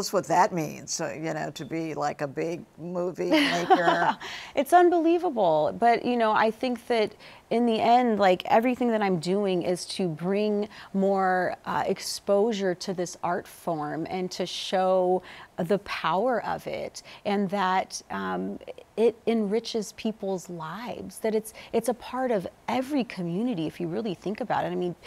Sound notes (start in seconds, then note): 3.4 laughs